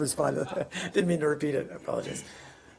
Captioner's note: laughter